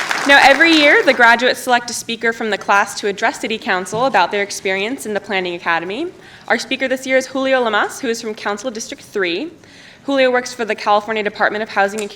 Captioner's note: applause